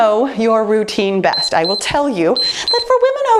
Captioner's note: timer beeps